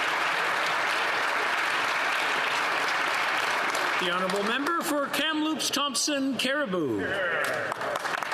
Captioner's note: applause